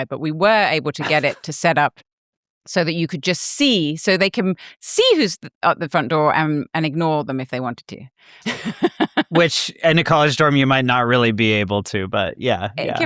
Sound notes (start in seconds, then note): 8.4 laughs